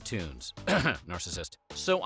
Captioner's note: clears throat